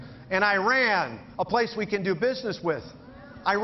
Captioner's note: none